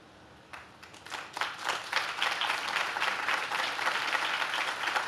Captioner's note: audience claps